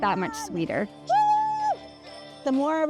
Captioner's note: woman cheers